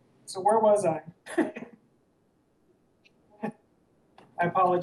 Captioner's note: laughs